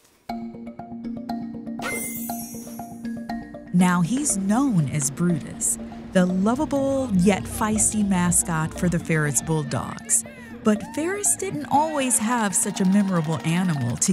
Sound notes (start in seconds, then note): 0.2 fantastical music; 1.9 chimes jangle